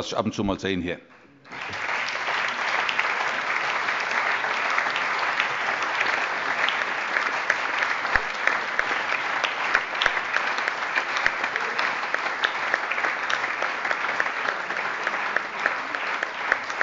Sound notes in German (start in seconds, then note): 3.8 Allgemeiner Beifall